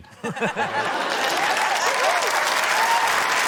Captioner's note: laughter, applause